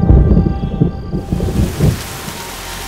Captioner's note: Rain pattering